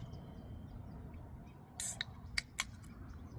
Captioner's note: dr pepper can cracks